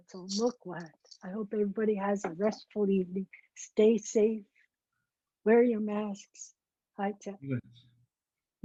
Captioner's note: foreign language